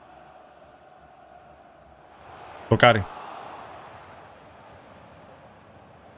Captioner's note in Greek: χειροκρότημα